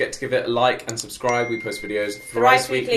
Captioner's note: bell dinging